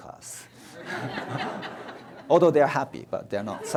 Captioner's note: audience laughs